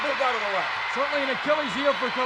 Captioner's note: audience cheers